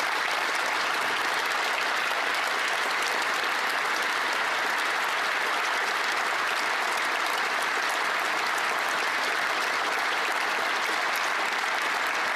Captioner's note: applause